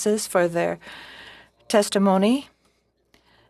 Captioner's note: speaking in French